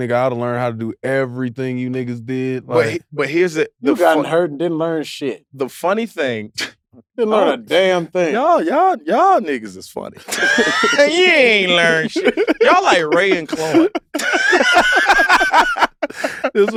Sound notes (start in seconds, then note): 6.5 chuckles; 13.4 all laughing